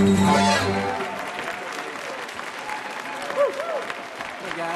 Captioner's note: audience applauding